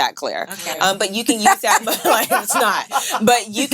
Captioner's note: laughing